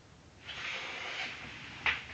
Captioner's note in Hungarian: sziszegés